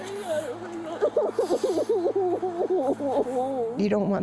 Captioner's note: sobbing